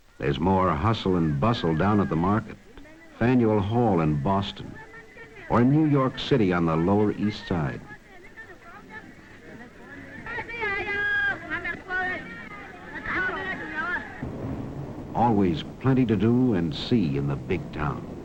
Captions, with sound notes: There's more hustle and bustle down at the market. Faneuil Hall in Boston. Or in New York City on the Lower East Side. (people talking) Always plenty to do and see in the big town.